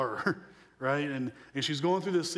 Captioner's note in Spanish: risas